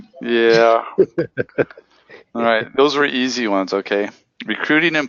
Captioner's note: laugh